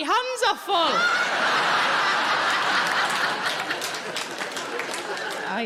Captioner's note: audience laughing